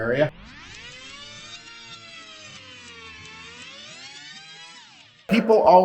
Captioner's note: fast-forward sound effect